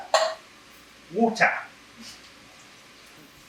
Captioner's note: obnoxious British accent